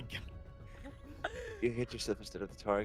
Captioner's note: laughs